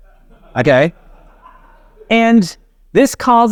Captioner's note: audience chuckles